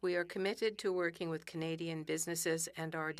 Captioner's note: speaking French